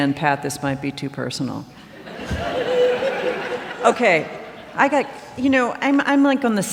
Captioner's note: laughter